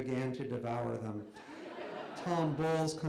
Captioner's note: laughter